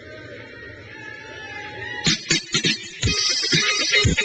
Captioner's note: crowd cheers